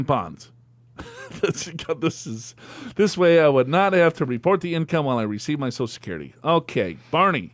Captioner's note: laughs